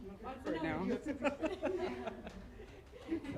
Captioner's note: laughter